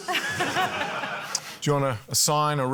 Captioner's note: laughter